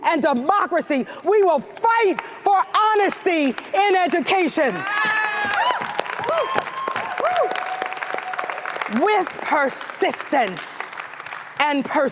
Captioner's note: applause